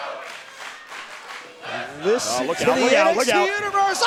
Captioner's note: fans chanting